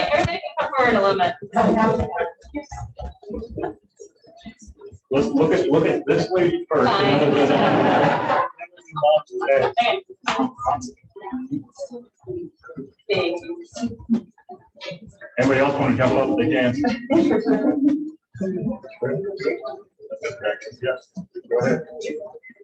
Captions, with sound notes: - Okay, everybody can come forward a little bit. - Just look at this way first. - Fine. (everyone laughs) - Anyone else wanna hop up, they can. Yeah, go ahead.